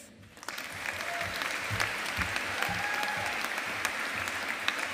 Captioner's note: audience applauding